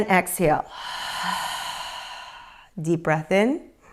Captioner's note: exhales